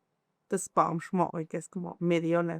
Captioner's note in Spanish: habla en mixe